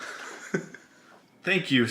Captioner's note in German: lacht